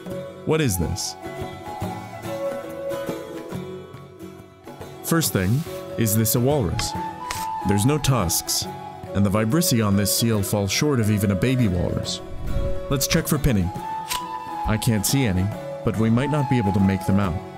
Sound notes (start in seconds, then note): none